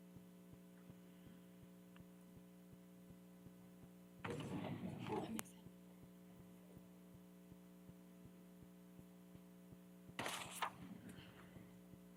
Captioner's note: indistinct chatter